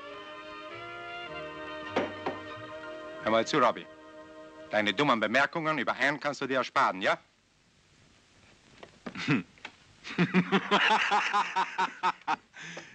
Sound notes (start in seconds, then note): 10.0 Bob laughing